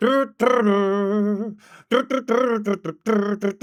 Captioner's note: humming